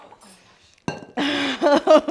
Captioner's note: metal bowl clinks on countertop; gasps; laughing